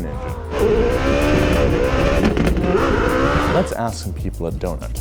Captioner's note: engine revs